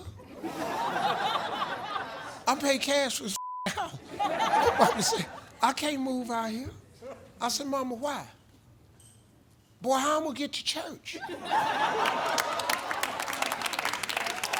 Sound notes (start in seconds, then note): 0.1 audience laughing; 3.3 beep; 3.9 audience laughing; 11.2 audience laughing